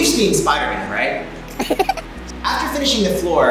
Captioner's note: funny laughter